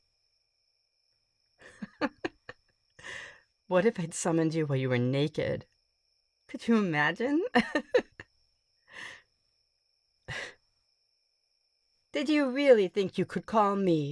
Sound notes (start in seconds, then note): 1.6 giggle